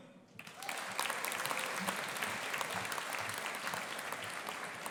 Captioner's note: audience applauding